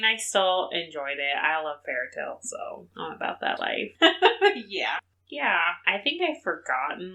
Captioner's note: laughs